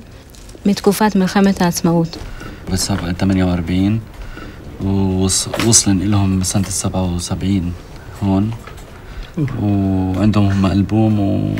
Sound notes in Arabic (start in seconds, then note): 2.7 يتكلم بلغة أجنبية